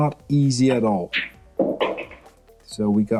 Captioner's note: balls clanging